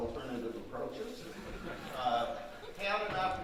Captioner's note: audience laughing